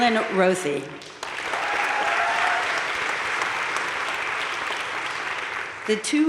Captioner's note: audience cheering and applauding